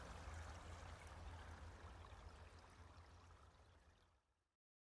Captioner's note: water and crows fade away